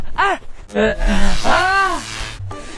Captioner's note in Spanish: Gritos